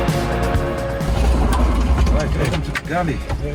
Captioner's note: door whirring